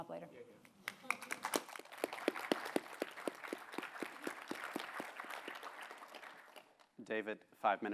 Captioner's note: applause